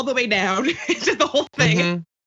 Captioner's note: laugh